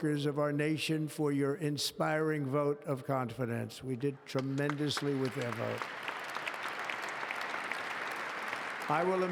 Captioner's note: applause